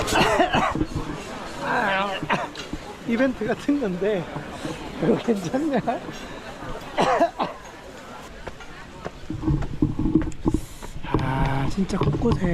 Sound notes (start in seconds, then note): 6.8 cough, cough!